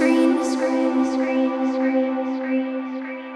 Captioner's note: space echo!